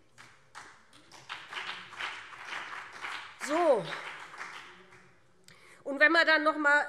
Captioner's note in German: Beifall BÜNDNIS 90/DIE GRÜNEN und CDU